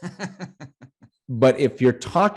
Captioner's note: laughs